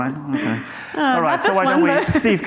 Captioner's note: chattering